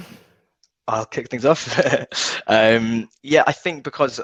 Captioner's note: chuckling